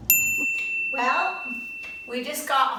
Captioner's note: ding